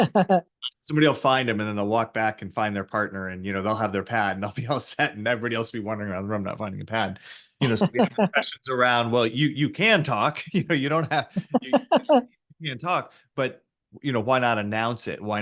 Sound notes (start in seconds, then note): 7.6 laughs; 10.1 voice cuts out